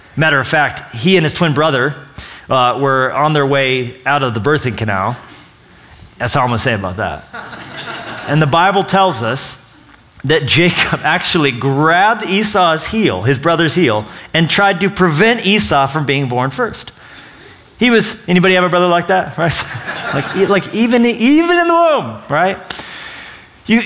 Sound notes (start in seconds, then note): 7.3 laughter; 19.6 laughter